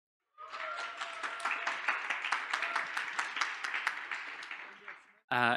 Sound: audience cheers and applauds

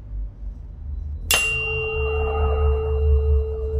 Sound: tuning fork rings

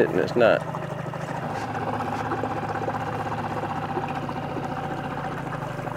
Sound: boat engine sputtering

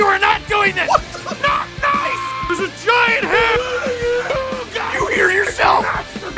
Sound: screaming; Harry potter screaming

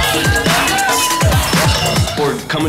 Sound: contestants yelling; bells ringing

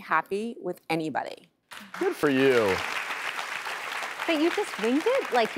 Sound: applause

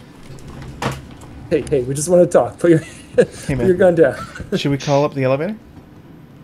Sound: laughs

